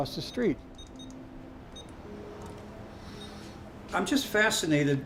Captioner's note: beeping